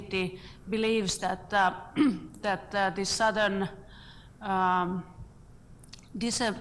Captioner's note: foreign words